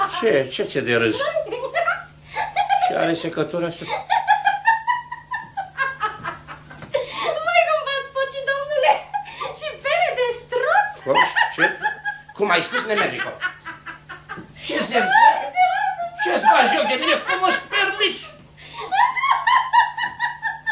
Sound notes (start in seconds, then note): 3.9 laughter sounds from women